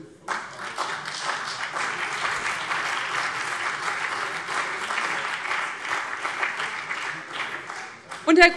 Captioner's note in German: Beifall BÜNDNIS 90/DIE GRÜNEN und vereinzelt CDU